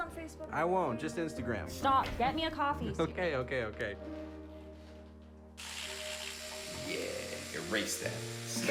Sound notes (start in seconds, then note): 5.6 mechanical eraser buzzes